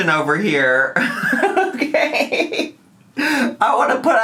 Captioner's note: laughing